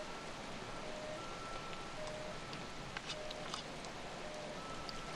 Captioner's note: siren wailing in distance